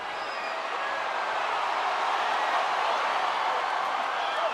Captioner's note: crowd cheering